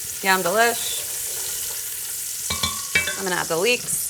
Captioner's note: bacon sizzling